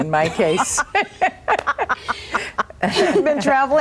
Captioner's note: all laughing